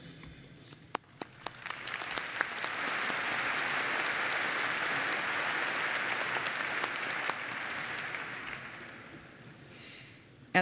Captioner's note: applause